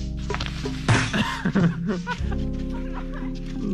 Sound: laughing

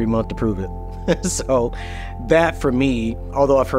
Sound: laughs

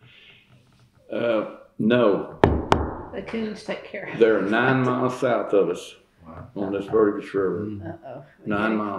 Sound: knocks on wood

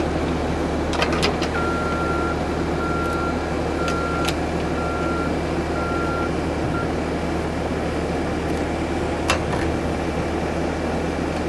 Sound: skid-steer engine running

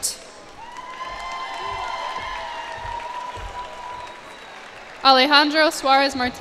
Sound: cheers and applause

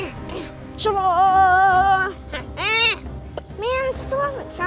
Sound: yells

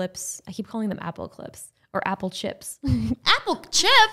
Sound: laughing

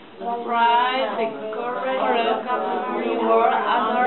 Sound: voiceover

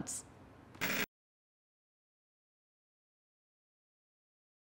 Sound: television static

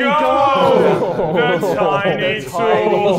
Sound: Sidemen laughing

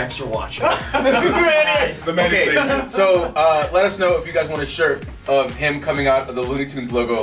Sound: laugh

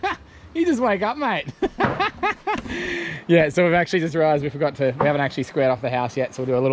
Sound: laughing

